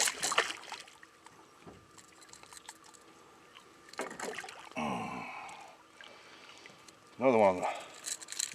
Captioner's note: fish splashing; tackle rattling